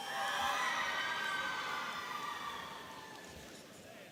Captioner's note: audience cheering